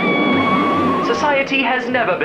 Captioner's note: crash; scream